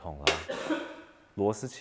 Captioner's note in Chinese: 咳嗽聲